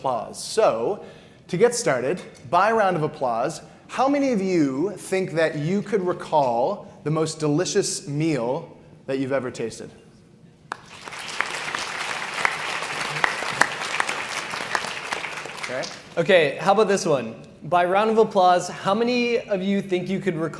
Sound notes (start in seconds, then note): 10.7 audience applauds